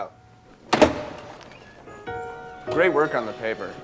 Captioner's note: door rattling